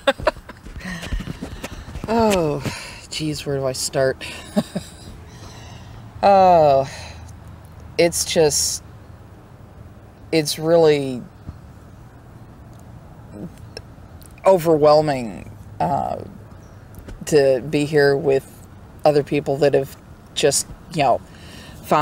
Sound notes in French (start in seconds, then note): 0.0 rires; 4.3 rires